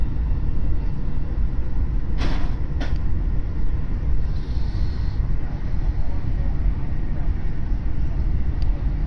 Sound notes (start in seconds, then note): 3.3 sighing angrily